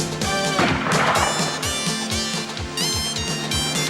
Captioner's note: gun firing